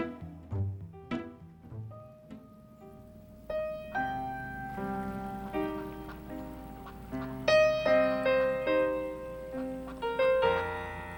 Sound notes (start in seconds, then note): 2.4 duck quacks; 2.4 sad piano music